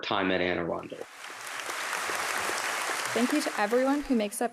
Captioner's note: applause